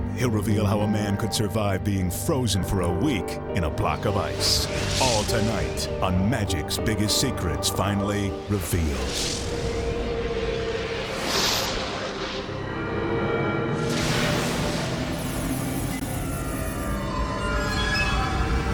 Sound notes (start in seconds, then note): 9.5 mysterious music; 10.4 graphics whooshing; 12.7 mysterious music; 13.8 graphics whooshing